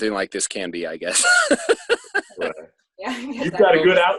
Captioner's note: laughing